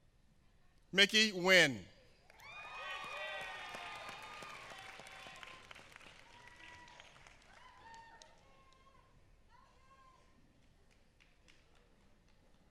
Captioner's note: applause